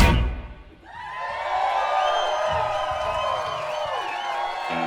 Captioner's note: cheering